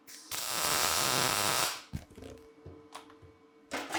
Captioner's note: sparks hissing